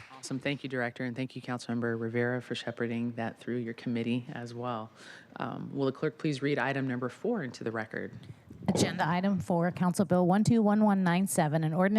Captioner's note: applause